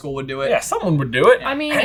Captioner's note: accented